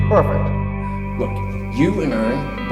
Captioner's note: voice-over